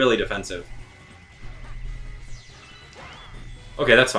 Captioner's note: electric buzz